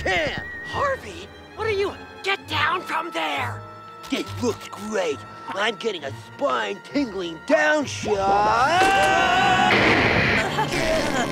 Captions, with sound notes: Harvey, what are you-- get down from there! This looks great. I'm getting a spine-tingling downshot... [screaming]